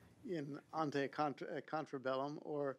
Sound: speaking foreign language

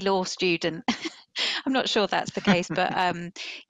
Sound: chuckles

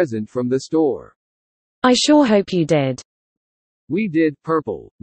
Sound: shouting

